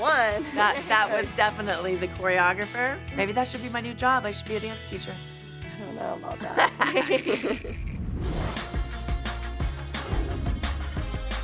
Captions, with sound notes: That was definitely the choreographer. Maybe that should be my new job. I should be a dance teacher. -I don't know about that. -[laughs] [funky, upbeat music playing]